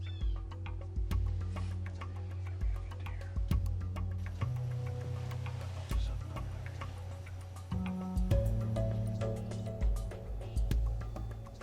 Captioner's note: whispering